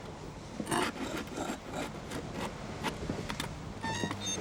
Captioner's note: scraping